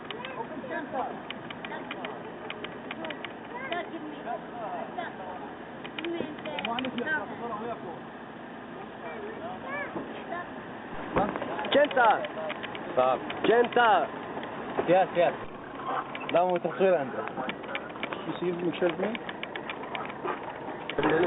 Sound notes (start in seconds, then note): 3.8 citizens speaking in foreign language; 16.4 driver speaking in foreign language